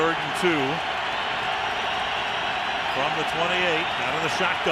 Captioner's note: cheering